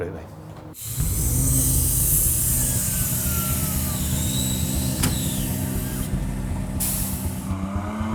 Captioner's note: engine Revving